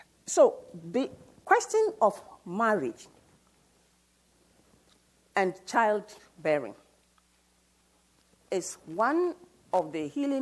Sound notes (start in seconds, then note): none